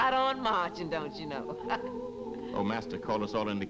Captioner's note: laughs